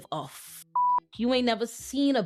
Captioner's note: beep